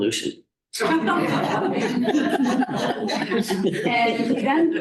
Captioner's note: laughter